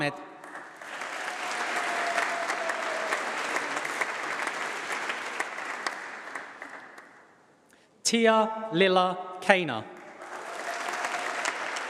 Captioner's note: applause; applause